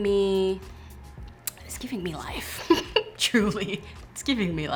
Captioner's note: laughs